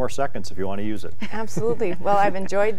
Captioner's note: laughter